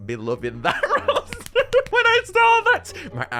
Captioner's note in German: Glückliches Lich-Klatschen